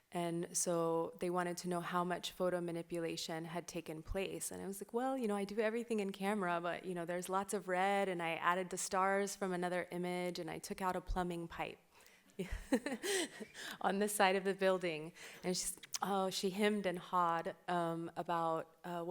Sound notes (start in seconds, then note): 12.4 laughs